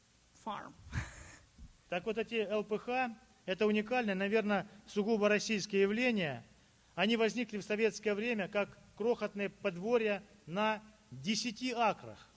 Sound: speaking Russian

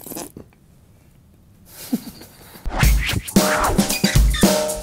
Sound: laughs; upbeat playful music

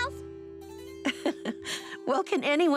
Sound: chuckles

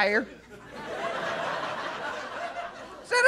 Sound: laughter

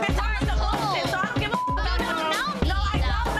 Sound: beep

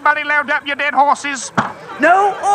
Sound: thunk

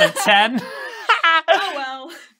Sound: laughing

